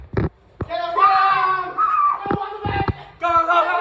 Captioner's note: girly Shriek